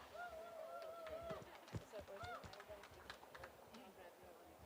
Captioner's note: applause